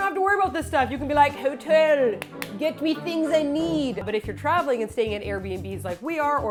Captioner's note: clap, clap